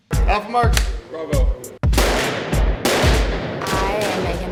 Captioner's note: gunfire